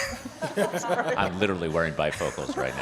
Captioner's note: participants laughing